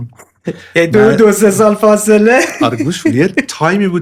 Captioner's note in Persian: خنده